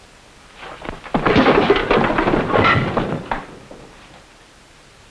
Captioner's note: punch smacking